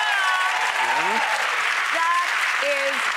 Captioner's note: applause